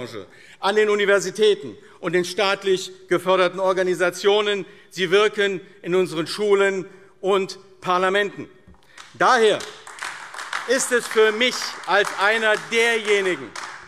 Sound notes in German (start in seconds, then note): 8.8 Beifall AfD